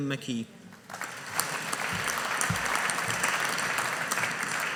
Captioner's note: audience applauding